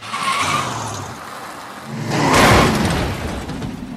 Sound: car tires squealing; wind whooshing

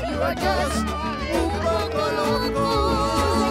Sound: laughs

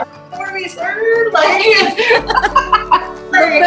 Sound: laughter

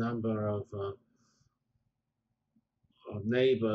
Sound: pause

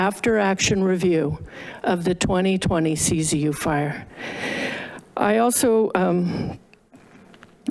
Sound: gasps

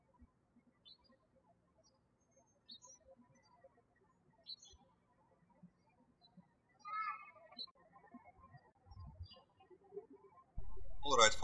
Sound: birds chirping

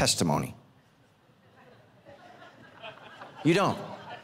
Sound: congregation laughing

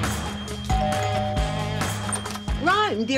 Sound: doorbell ringing

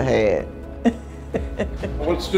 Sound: laughing

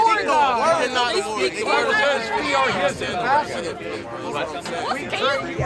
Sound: crowd yelling over each other

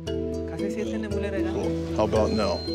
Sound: speaking foreign language

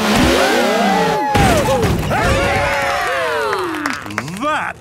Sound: crowd; applause

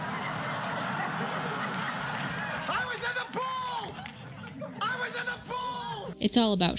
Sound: shouting

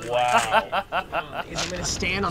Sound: laughing

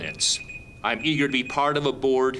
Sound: timer beeping

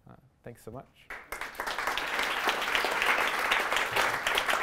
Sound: applause

